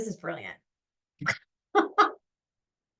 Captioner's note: laughs